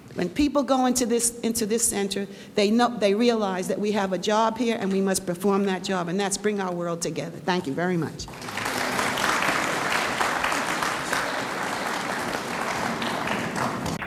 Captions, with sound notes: When people go into this Center, they realize that we have a job here and we must perform that job and that's bring our world together. Thank you very much. (audience applauds)